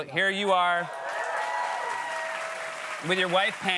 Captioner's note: cheers and applause